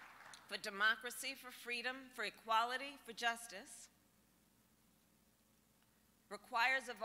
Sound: applause

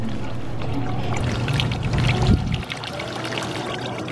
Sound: sound of fountain water rippling

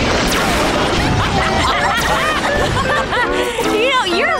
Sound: laughing

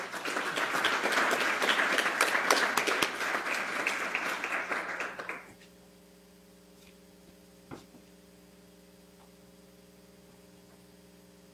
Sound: applause

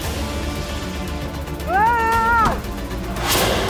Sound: screams

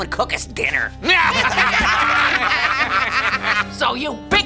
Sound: laughing sinisterly

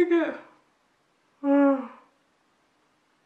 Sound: yawns

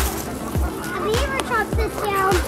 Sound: branches rustling; geese honking

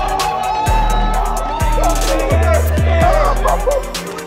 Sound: crowd continues cheering

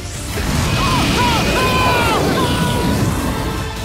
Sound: screaming

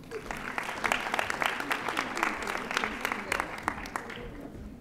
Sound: audience applauding

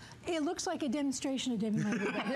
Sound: laughter

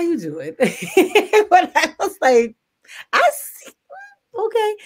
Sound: laughs

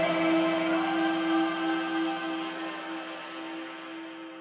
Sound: phone ringing

